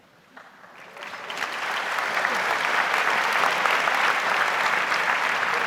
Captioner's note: audience applauds